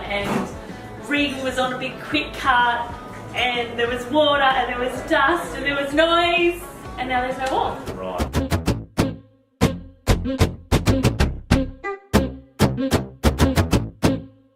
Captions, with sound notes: and Reagan was on a big, quick cut. And there was water and there was dust and there was noise. And now there's no wall. - [Male Voice] Right. (upbeat music)